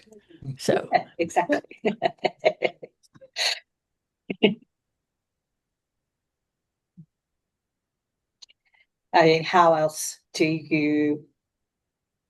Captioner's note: laughs